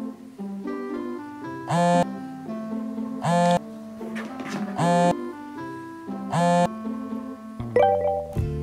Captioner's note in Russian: звонит